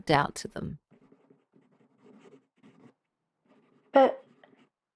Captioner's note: background SFX: Pen scratching on paper